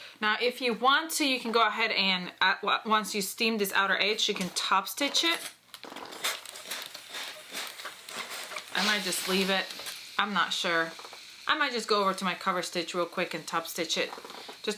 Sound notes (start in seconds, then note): 6.1 steam sizzles